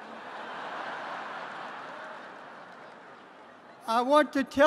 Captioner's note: laughter